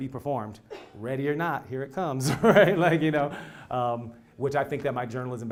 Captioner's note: laugh